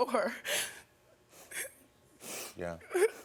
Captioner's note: crying